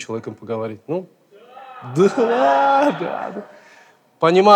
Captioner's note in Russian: смех в зале